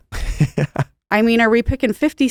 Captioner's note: laughing